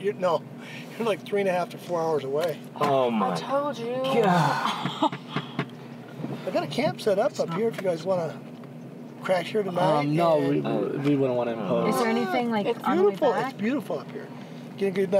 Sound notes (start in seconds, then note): 4.2 sighing; 4.3 laughing